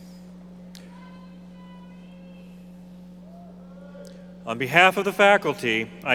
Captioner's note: audience member shouting